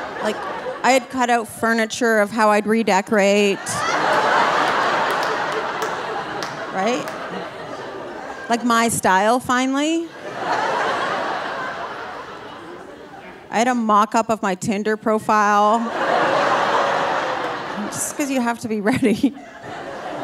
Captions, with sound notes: Like, I had cut out furniture of how I'd redecorate. (audience laughing) Right? Like, my style, finally. (audience laughing) I had a mock-up of my Tinder profile (audience laughing) just 'cause you have to be (laughing) ready.